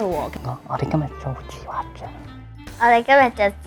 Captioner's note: whispers